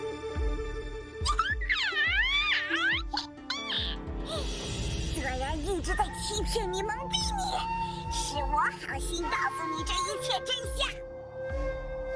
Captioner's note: sigh